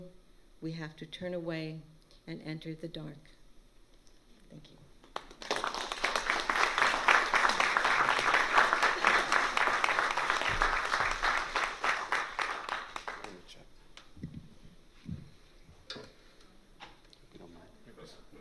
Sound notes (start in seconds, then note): 5.1 applause